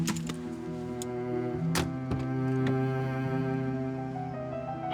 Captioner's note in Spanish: Portazo